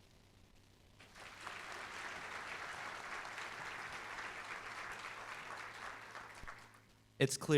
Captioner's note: applause